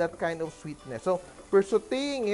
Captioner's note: sizzle